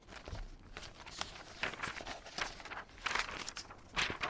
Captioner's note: paper rustles